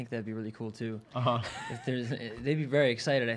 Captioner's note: chuckling